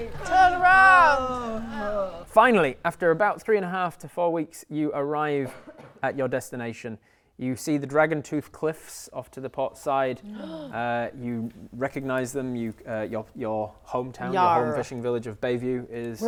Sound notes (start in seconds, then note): 10.3 gasp